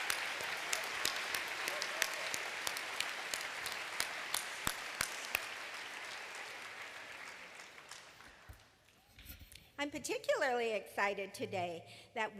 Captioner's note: applause